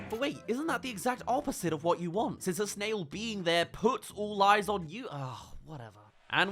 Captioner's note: sigh